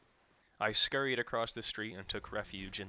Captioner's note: scared and hurried